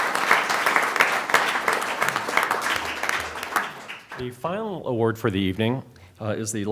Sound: applause

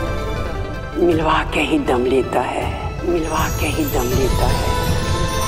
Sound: echoing

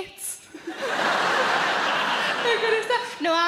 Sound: audience laughing

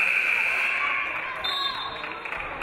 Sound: audience applauding; game buzzer buzzes; referee blows whistle

